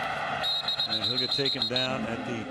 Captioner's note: whistle blows